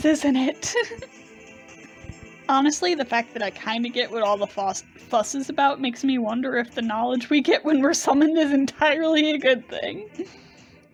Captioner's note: laughing